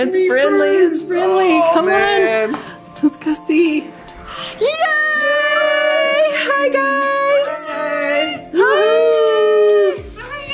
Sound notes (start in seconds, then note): 0.0 laughs; 4.2 gasps; 8.7 cheer